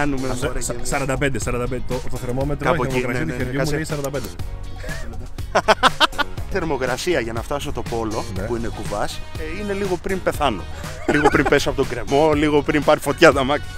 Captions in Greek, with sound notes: Κ -Το θερμόμετρό μου λέει 45. - Ε, κάπου εκεί. [γέλια] Θερμοκρασία για να φτάσω το Polo που είναι κουβάς είναι λίγο πριν πεθάνω. Λίγο πριν πέσω από το γκρεμό. Λίγο πριν πάρει φωτιά το αμάξι.